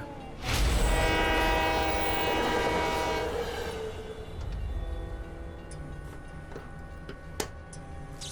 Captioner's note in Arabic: بوق القطار